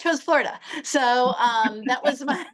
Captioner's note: laughter